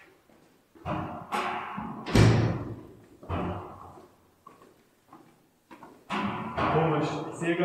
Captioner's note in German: Klopfen